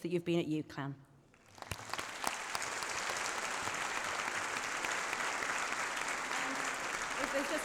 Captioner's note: applause